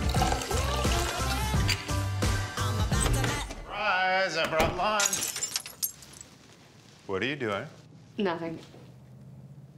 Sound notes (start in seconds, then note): 0.0 bottle opens; 4.4 door opens; 4.9 glass breaks